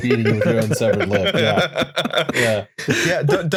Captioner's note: laughter